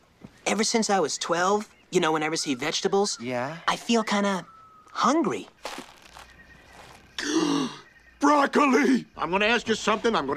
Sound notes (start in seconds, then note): 7.1 gasps